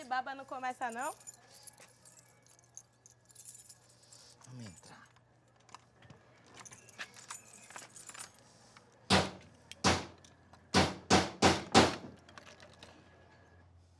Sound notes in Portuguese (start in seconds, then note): 10.7 marteladas; 13.8 silêncio